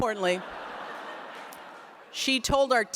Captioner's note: laughter